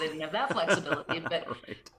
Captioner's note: laugh